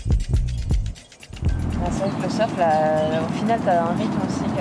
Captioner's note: foreign language